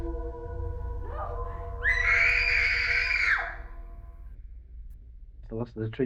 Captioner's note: screaming